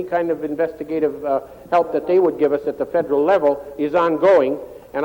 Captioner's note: speaking French